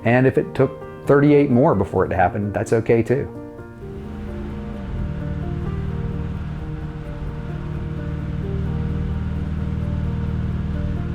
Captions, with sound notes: And if it took 38 more before it happened, that's okay too. (car motor running)